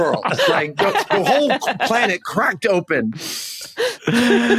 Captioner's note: group laughing